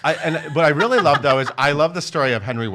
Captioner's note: laughs